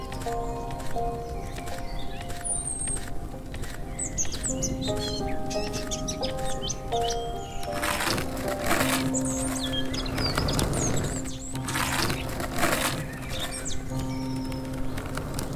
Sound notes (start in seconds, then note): 0.2 birds chirping; 7.6 skateboard rumbling on tar; 12.7 birds chirping